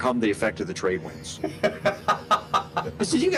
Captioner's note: laughing